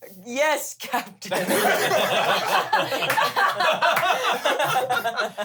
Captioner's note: everyone laughs